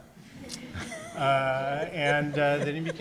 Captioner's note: audience laughs